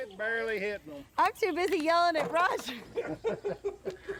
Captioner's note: laughs